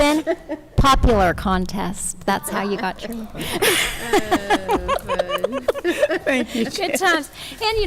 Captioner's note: chuckles